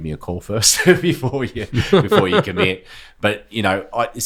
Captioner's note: laughing; laughs